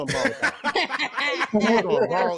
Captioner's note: laughter